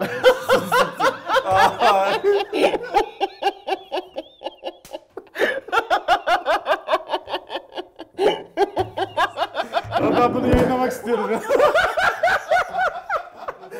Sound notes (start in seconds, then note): 0.0 laugh and Shame at the same time; 5.3 laughs continues